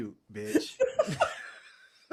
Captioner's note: laughing